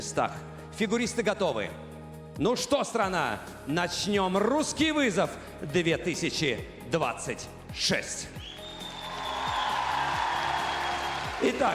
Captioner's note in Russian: ликование